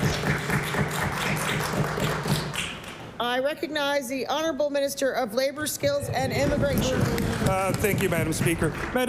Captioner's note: applause